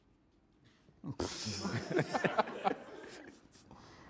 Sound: laughing

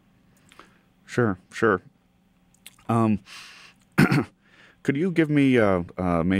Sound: coughs

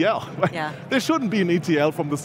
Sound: chuckles

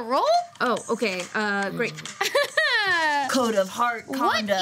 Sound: chuckles

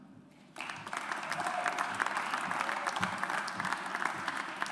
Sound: audience applauds

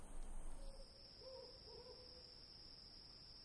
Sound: crickets

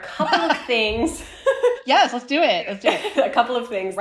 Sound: laughter

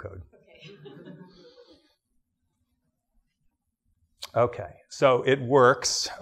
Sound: laughs

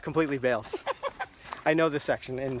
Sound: laugh

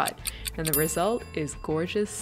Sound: timer ding

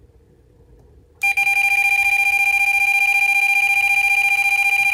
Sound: machine beeping

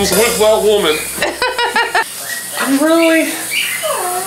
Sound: laughing

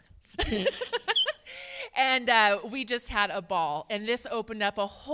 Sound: laughs

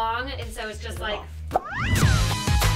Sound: mouth pop

